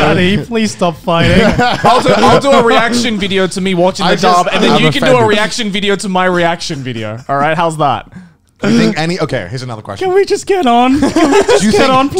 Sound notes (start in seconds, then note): 1.1 men laughing; 10.8 men laughing